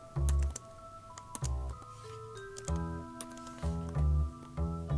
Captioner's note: keyboard clacking; gentle pensive music